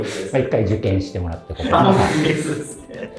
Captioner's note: laughing